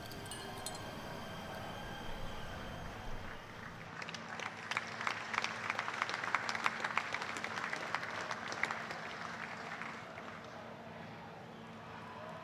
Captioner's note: applause